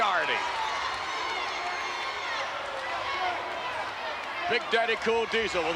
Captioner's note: spectators cheering